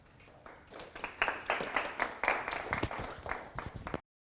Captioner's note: students claps